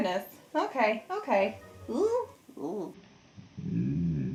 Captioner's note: groans